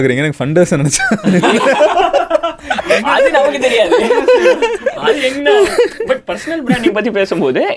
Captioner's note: group laughs